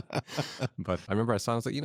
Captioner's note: laughs